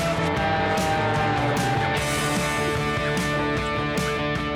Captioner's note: plane engine